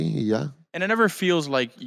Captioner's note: speaking Spanish